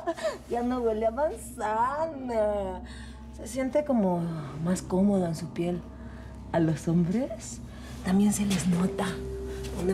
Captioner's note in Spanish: Risas